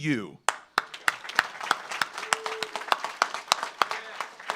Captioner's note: audience applauds